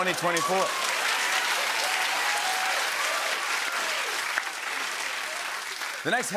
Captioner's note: cheers and applause